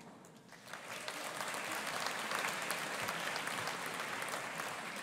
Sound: audience applauding

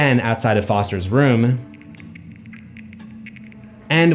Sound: cracking sounds

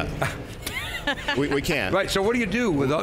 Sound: all laughing

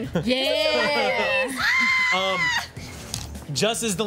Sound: squealing

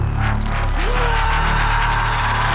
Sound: screaming

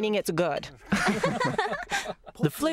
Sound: laughter

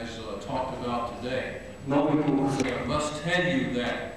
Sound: non-english speech

